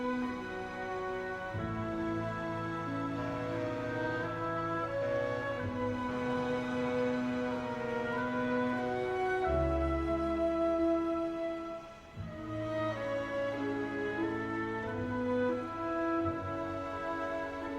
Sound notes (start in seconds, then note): 3.2 distant ferry horn